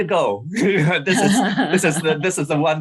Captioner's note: laughter